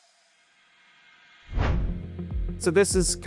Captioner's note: air whooshing